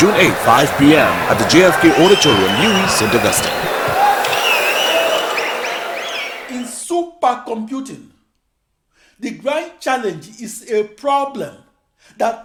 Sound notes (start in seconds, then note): 2.1 wild applause and cheering for 22 seconds